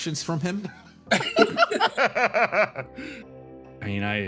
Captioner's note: laughs